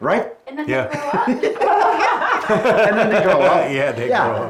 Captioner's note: laughs